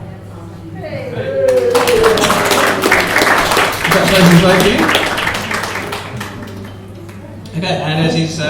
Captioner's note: cheers and applause